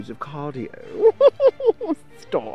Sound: laughs

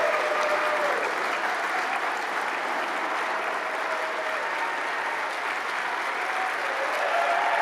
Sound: applause

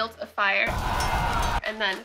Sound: war noises

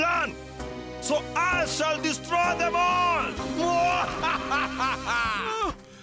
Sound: evil laughter

